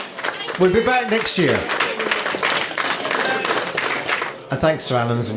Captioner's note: applause